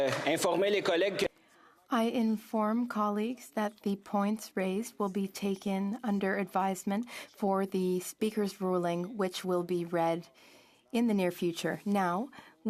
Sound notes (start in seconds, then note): 2.2 speaking in French